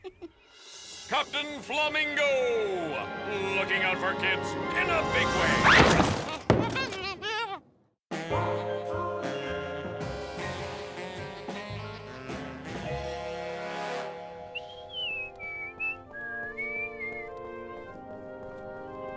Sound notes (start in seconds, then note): 0.0 announcer laughs; 8.4 mysterious music; 13.6 calm music; 14.4 whistling